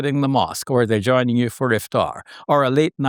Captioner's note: foreign language